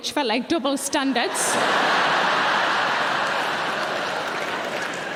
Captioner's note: audience laughing